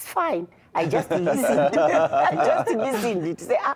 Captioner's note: laughter